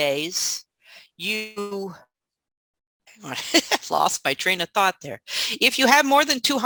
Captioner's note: chuckles